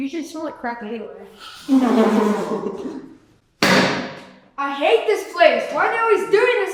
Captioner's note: children laughing; loud slam